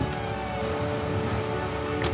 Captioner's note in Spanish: Sirenas